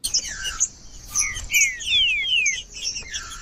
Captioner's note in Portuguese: trinca ferro cantando